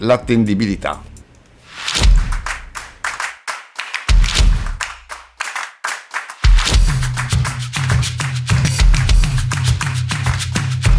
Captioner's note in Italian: Applauso